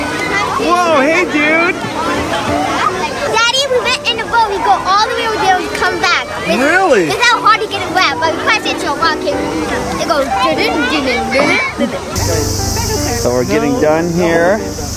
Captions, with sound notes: Whoa, hey dude! Daddy, we went in the boat. We went all the way over there and came back. Really?! Without hardly getting wet! But we crashed into a rock and it went (imitates sound) So we're getting done here.